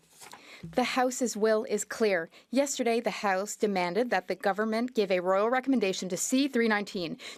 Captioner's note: speaking French